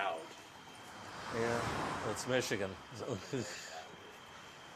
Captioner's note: laughs